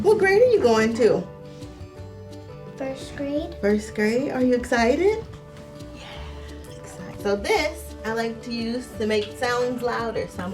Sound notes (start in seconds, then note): 5.7 whispers